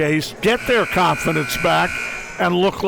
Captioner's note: buzzer ringing